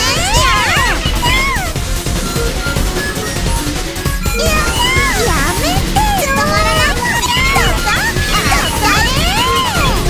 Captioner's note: crying